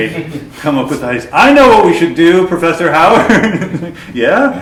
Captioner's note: laughter; laughter